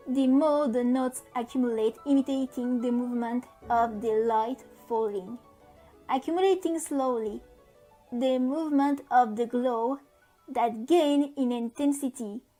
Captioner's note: in french